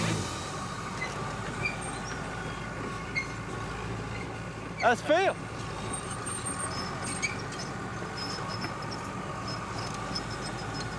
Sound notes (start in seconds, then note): 0.0 tracks squeaking; 7.0 squeaking continues